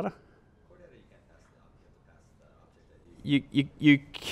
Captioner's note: voiceover